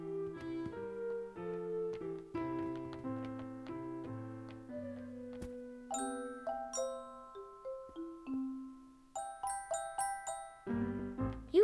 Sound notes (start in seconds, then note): none